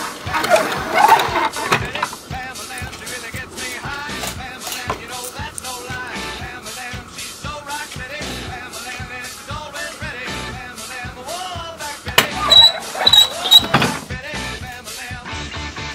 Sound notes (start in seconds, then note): 12.0 click; 12.0 thud; 12.1 squeak squeak squeak